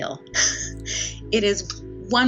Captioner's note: laughs